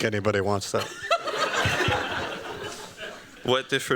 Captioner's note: laughter